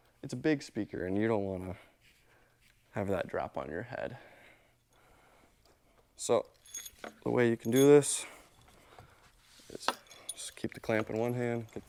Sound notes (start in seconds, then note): 6.3 hardware jangling